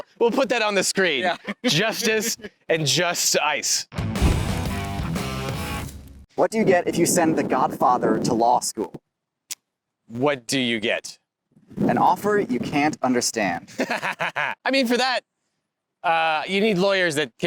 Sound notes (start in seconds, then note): 0.9 both laugh; 3.9 cool rock music; 13.6 laughs